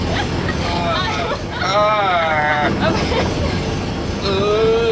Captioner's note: laughs; Jordan groans; Jordan whines